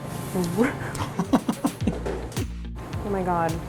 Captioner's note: laughing